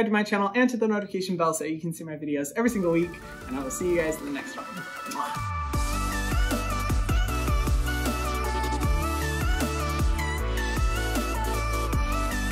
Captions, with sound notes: to my channel and to the notification bell so you can see my videos every single week and I will see you guys in the next one. (blowing air-kisses) (upbeat music)